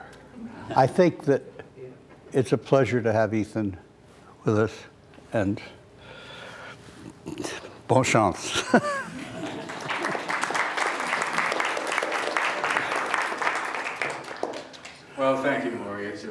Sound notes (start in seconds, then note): 9.3 applause